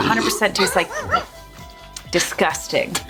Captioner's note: burping